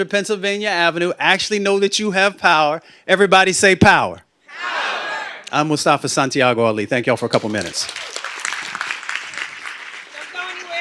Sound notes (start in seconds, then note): 4.6 shouting; 7.3 applause